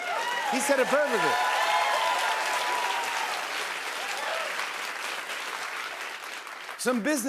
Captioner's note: cheers and applause